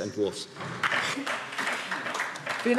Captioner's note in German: Beifall DIE LINKE